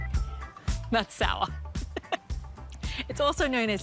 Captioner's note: laughs